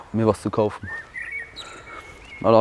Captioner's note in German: Vogelzwitschern